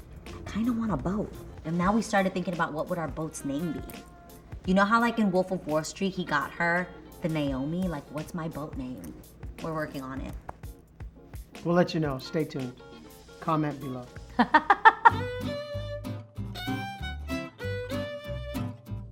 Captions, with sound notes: I kinda want a boat. And then, we started thinking what would our boats name be? You know how like, in Wolf of Wall Street, he got her, the Naomi. Like, what's my boat name? We're working on it. - We'll let ya know. Stay tuned. Comment below. (Laughing) (Up beat music)